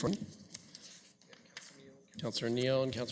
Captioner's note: audio drop